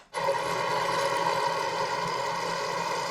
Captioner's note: whirrrrrrrrrrrrrrrrr